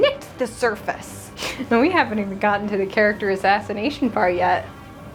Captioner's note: chuckle